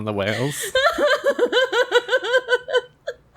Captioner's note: laughs